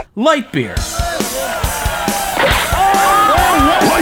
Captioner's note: crowd cheering